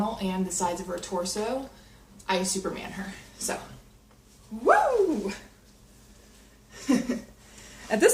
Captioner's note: whooping